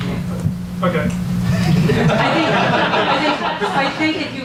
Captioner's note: audience laughs